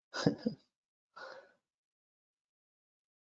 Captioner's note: laughs